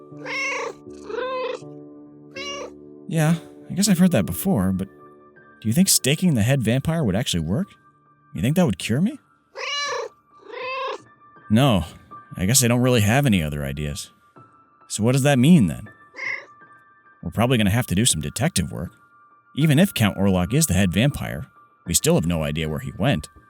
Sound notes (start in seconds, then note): 0.1 meow; 9.5 meow